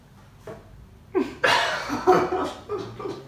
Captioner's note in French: Rires